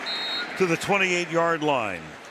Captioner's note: whistle blows